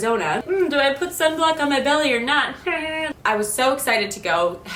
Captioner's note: laughs